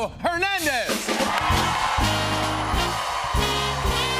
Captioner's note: cheers and applause